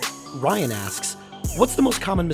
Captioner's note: voiceover